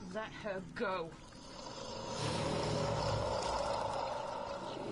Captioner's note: monster growling